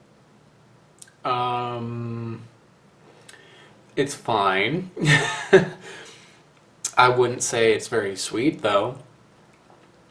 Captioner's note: laughs